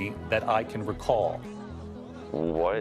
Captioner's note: crowd chatters